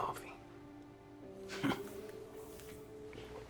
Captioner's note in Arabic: يضحك